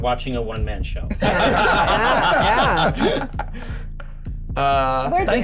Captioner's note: laughter